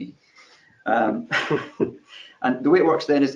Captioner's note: chuckles